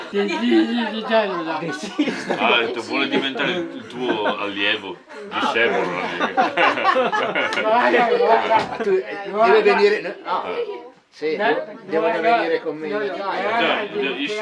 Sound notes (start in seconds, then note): 5.2 laughter